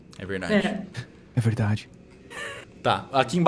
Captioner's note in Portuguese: risos